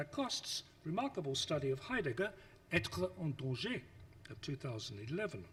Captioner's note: speaks foreign language